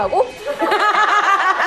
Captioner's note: ha ha ha